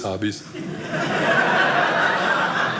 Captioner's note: audience laughing